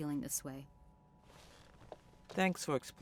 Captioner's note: chair shifting